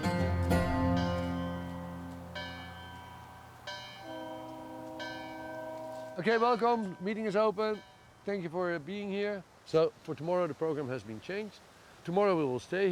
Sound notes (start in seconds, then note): 4.8 church bells